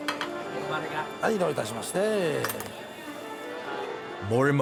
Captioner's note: speaking in foreign language